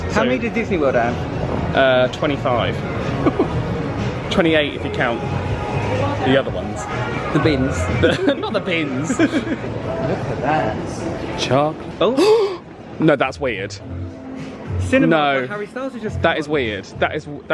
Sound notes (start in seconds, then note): 3.2 chuckles; 12.2 both gasp